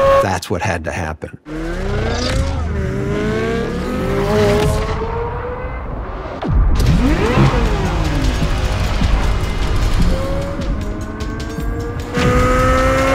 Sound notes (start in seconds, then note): 2.4 engine sounds